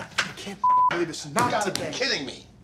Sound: beeps

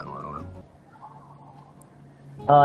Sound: wind blowing

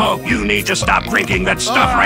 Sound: burp

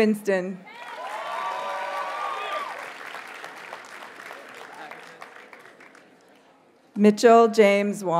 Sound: audience cheers and applauds

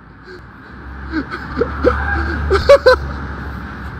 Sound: screams from the demons within me

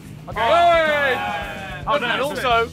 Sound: cheering

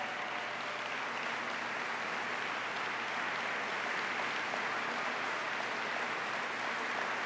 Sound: applause

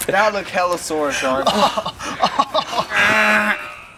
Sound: grunting

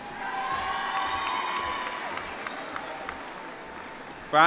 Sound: applause

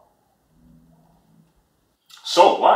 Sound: silence

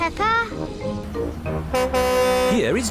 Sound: horn honks

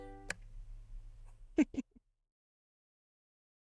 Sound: giggling

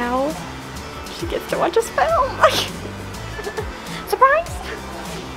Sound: giggles

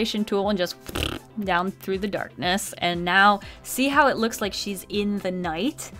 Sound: mouth fart

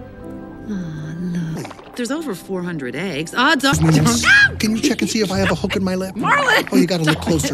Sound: sounds of bickering

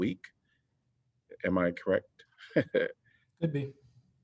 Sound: laughter

